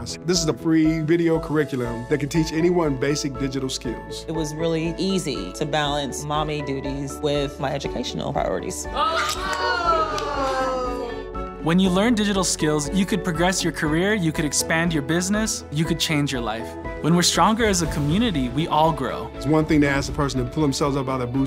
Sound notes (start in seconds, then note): 8.9 group cheering